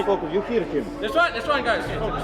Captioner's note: people chattering indistinctly